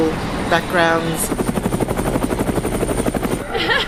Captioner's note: helicopter; laughter